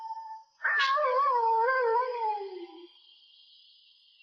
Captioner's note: animal howling